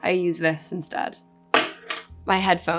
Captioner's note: eyelash curler clacking